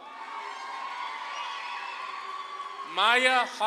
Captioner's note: audience claps and cheers